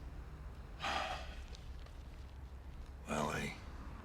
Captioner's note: sighs